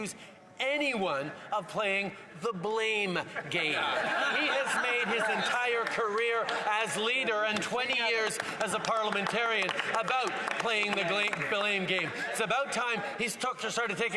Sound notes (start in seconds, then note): 7.0 some Applause